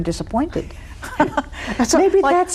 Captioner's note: both laughing